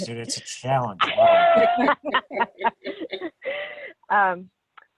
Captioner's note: women laughing